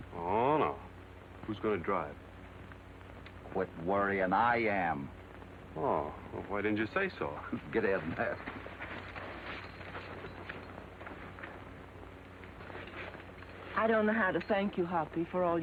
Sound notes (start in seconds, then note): 7.4 laughs